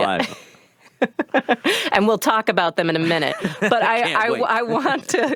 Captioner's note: laughs